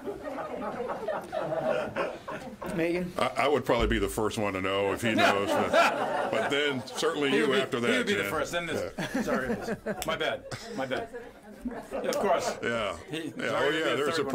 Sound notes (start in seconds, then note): 8.6 laughter